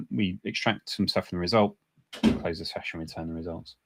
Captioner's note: none